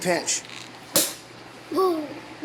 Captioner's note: cork popping